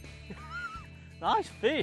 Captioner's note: laughs